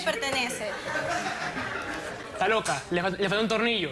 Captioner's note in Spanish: risas